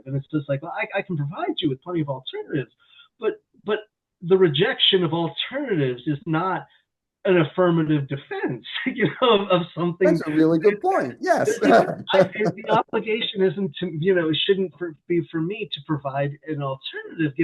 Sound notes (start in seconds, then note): 10.0 laughs; 10.0 chuckles